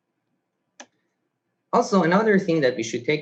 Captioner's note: mouse clicks